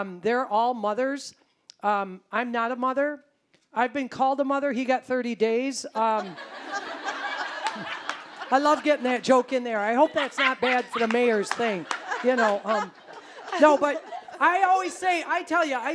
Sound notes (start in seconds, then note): 6.2 audience laughing; 11.9 audience laughing